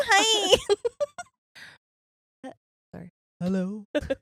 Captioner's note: laughing